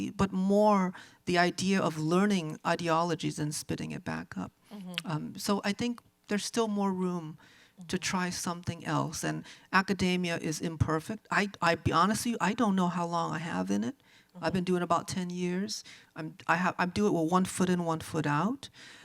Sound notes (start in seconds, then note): none